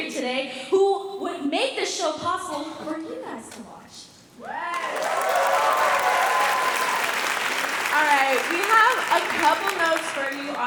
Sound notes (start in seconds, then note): 4.4 cheering; 4.7 applause